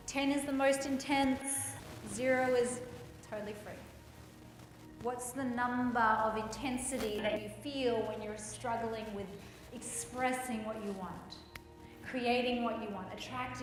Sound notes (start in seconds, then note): none